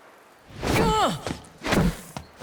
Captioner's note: grunting